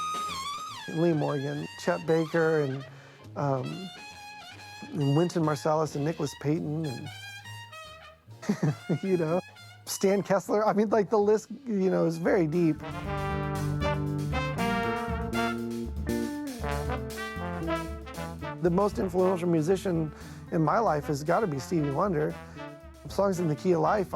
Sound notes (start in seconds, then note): 0.0 trumpet wailing; 8.4 laughs; 12.5 jazz music